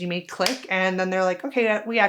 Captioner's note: hands clapping together